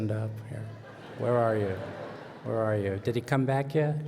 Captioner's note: laughter